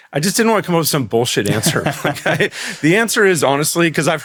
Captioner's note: laughs; laughing